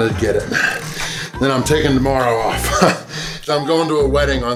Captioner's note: laughs